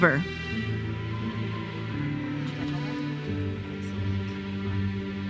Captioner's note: audience member cheers